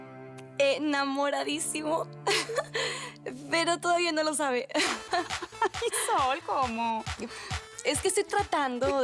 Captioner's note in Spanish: Ríe